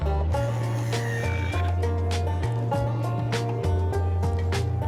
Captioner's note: drill whirring